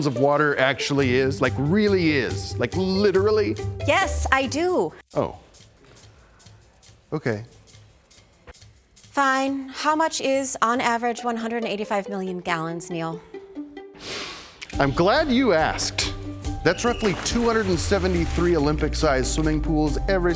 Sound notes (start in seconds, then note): 14.0 inhaling